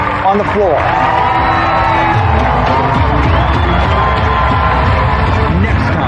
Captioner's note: ecstatic cheering and applause